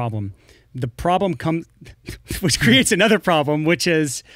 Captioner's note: both laugh